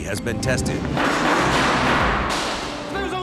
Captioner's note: clatter